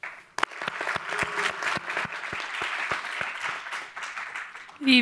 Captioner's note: audience applauding